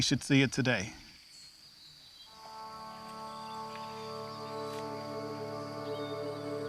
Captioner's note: birds chirping